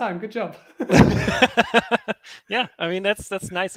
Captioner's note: everyone laughs